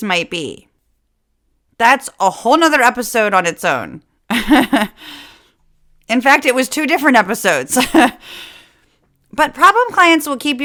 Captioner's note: laugh